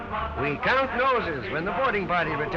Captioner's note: voiceover